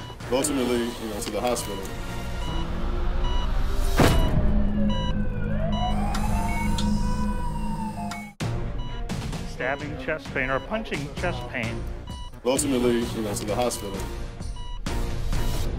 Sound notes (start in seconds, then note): 3.3 heart monitor beeping; 5.1 ambulance sirens